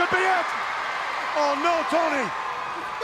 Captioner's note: crowd cheering